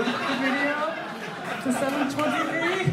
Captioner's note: laughs